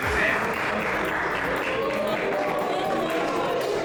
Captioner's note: applause